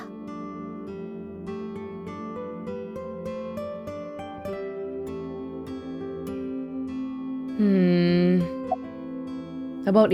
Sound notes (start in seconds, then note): none